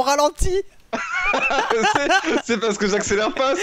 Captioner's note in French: rire